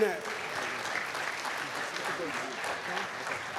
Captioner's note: applause